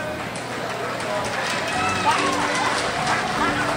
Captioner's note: crowd applauds